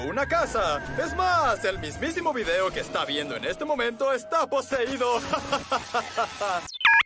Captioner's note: laughs